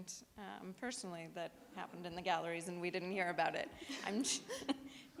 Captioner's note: audience laughs; chuckles